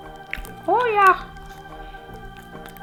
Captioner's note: Spudgy voice